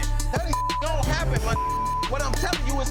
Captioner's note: beep